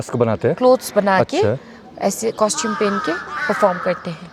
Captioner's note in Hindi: चीखने की आवाज़